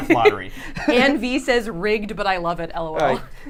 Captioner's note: laughs